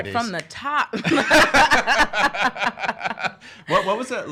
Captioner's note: laughing